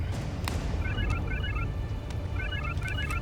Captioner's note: cell phone ringing